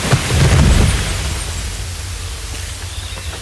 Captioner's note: loud crash